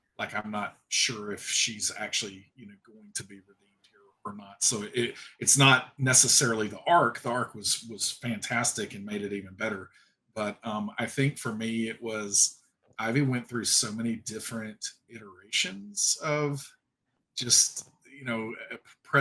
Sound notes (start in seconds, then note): 4.2 audio cutting out